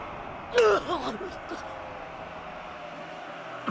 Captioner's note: cough!